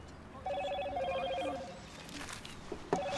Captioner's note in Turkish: Telefon zili sesi